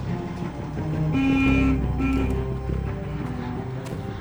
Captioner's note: suspenseful music; horn honks